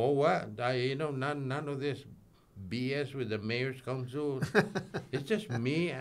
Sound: chuckles

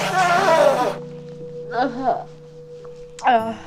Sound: blows nose

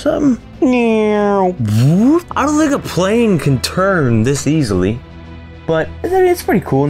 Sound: imitates plane

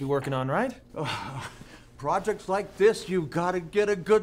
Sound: laughs

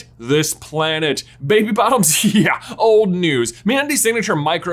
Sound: snickers

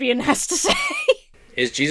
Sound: laughs

